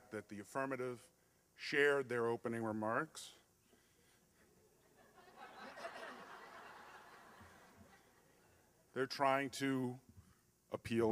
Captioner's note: slight laughter